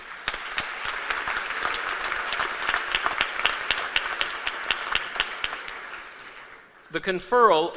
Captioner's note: applause